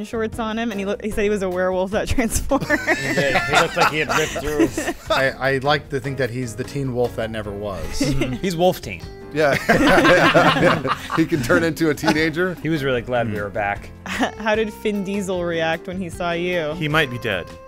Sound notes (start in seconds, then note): 9.5 laughing